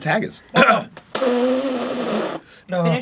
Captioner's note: aggressive spitting